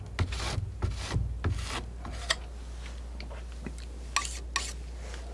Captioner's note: tapping